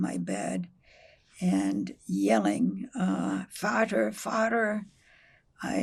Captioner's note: german